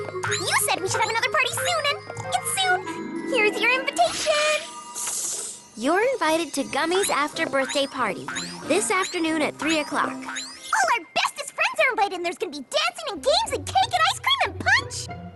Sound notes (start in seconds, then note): 4.3 tinkling